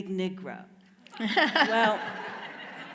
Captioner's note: everyone laughs